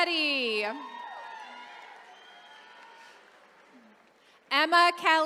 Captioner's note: attendees cheering